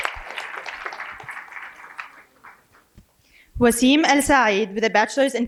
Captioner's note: applause